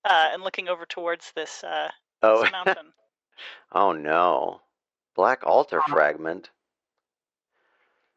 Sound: laughs

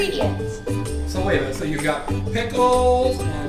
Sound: voiceover

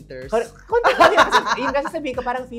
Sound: laughs

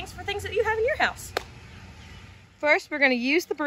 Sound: smacking

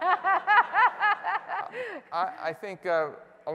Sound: laughter

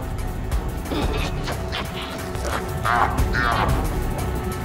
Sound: malevolent laughter

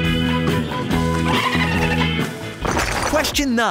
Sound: dolphin chirping

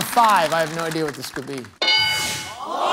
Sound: bell dings

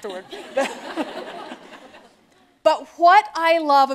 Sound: laughter

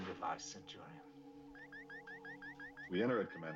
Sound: beeps

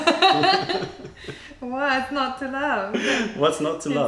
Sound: laughter

